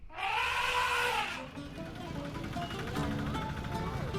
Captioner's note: elephant trumpets